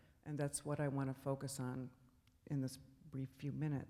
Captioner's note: none